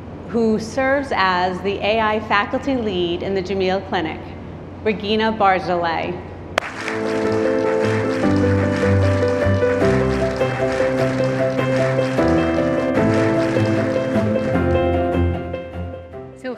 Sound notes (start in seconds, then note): 6.6 audience applauding; 6.6 warm music; 13.3 audience applauding